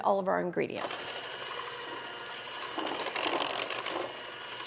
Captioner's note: mixer whirring